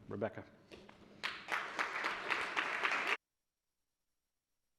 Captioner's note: audience applauds